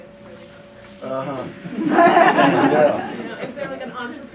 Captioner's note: laughter